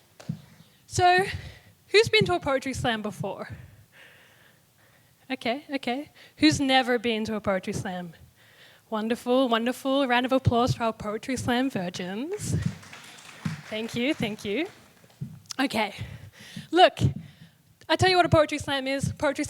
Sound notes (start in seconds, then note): 8.5 applause